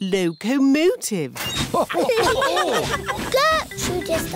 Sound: laughter

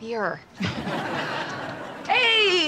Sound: chuckles

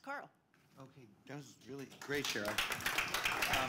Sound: applause

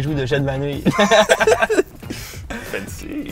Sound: laughs

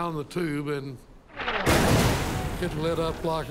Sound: cannon shot exploding

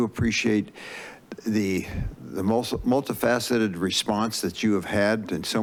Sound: inhales

